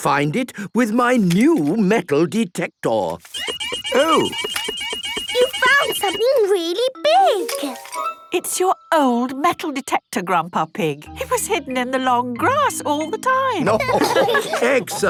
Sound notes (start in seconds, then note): 3.2 beeping; 13.6 laughter